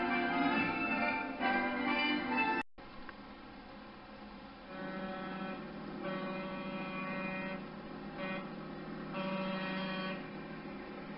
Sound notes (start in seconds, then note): 4.3 vehicle honking sounds and other busy street noises